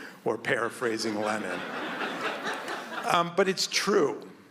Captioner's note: audience laughs